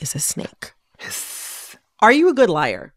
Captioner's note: hisses